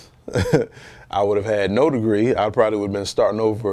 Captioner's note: chuckles